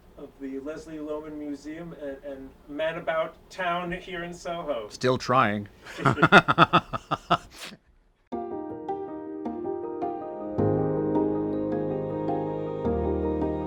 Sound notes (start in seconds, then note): 5.8 laughing; 8.9 soft music